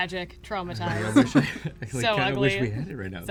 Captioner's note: laughs